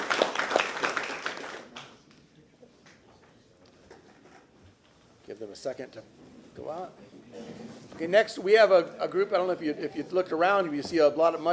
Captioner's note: applause